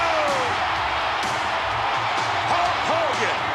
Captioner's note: audience cheering